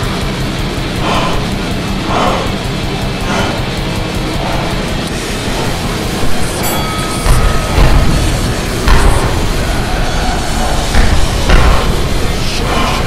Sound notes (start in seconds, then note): 0.6 slow motion breathing; 6.4 bell rings; 8.2 punching noises